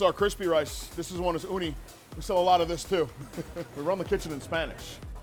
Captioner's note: chuckles